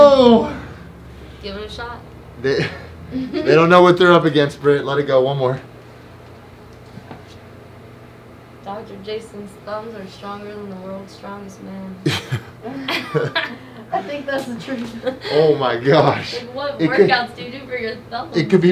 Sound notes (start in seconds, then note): 12.0 all laughing